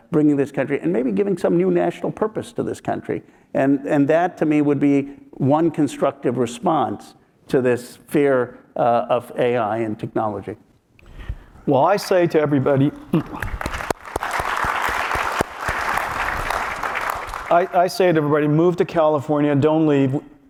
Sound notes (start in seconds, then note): 13.0 applause